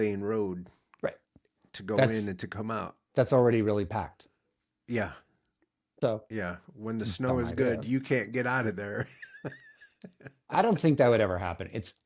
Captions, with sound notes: Right, that's already really packed. So, dumb idea. (Blank Audio) I don't think that would ever happen.